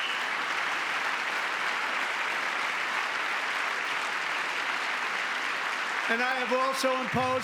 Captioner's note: applause; cheering